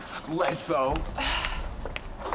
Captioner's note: sighs